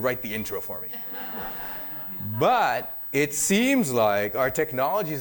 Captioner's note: laughter